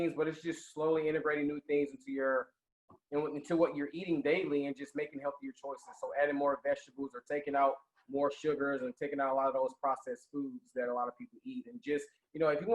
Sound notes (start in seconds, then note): none